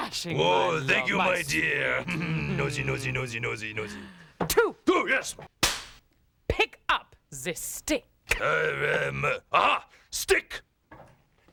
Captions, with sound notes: OH, THANK YOU, MY DEAR. NOSY, NOSY, NOSY, NOSY. TWO... ( cracks pointer ) "PICK UP THE STICK." AHA! STICK...